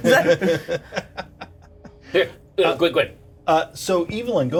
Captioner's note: Bobby chuckles